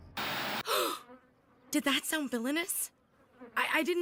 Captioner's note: gasping